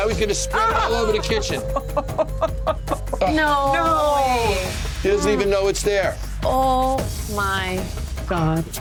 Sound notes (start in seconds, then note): 0.5 laughs uncomfortably